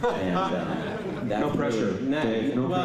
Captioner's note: laughter